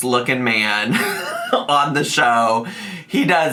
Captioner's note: laughs